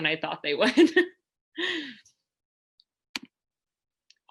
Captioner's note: laughter